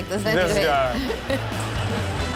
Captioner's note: audience laughs; rock music